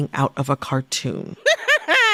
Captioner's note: laughter